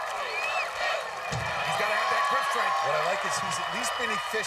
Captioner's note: cheers and applause